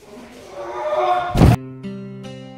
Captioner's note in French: cri etrange